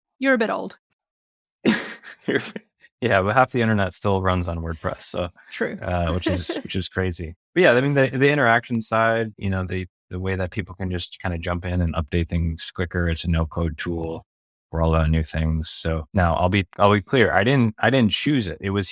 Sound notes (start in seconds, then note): 1.6 laughs